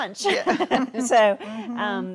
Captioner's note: all laughing